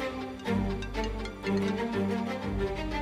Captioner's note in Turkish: Telefon Çalıyor